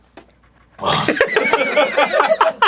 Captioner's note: arin audibly struggling